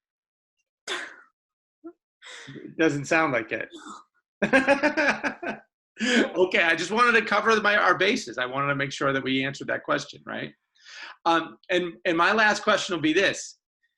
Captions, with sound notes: Doesn't sound like it?(laughs) Okay, I just wanted to cover the by our bases, I wanted to make sure that we answered that question, right. And my last question will be this.